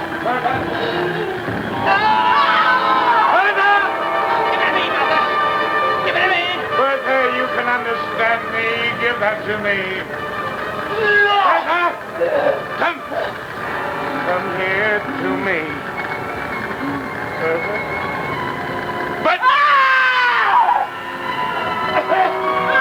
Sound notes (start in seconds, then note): 1.7 screaming; 19.2 screaming